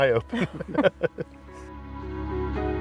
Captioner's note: chuckles; compelling music